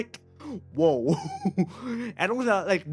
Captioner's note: laughs